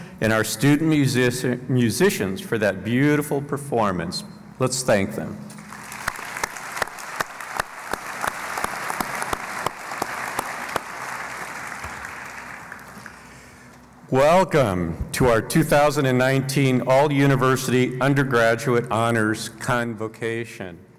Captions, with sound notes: and our student musicians for that beautiful performance. Let's thank them. [ Applause ] Welcome to our All-University Undergraduate Honors Convocation.